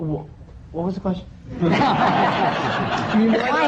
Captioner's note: laughter